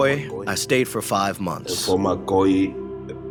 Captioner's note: through translator; speaking Spanish